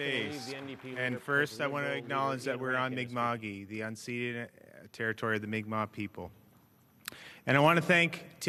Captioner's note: cheers and Applause